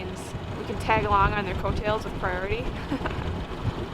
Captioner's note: laughs